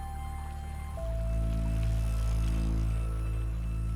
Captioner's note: bike rattling